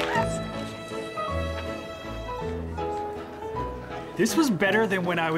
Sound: post-show chatter

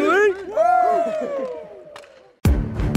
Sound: players cheer; hip-hop music

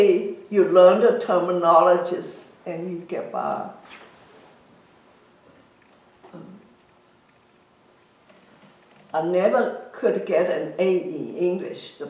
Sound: pause

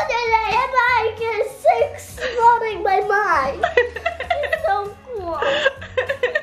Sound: giggles

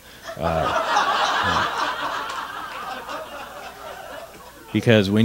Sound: laughter

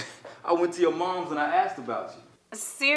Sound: chuckles

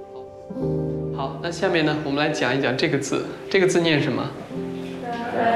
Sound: speaking Chinese

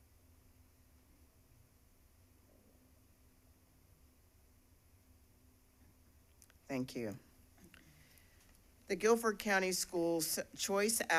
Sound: moment of silence

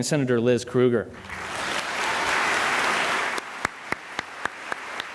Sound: applause

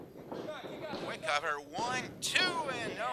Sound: referee slapping

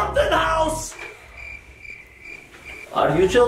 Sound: crickets chirping

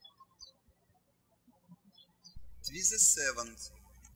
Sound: birds chirping

